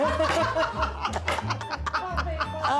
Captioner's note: laughter